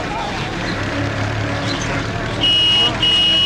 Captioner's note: honk honk